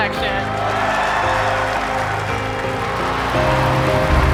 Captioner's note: cheering